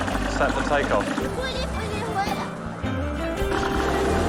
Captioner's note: speaking in foreign language